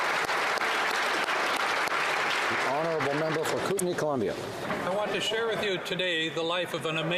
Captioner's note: applause